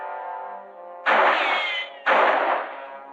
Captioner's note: gunshots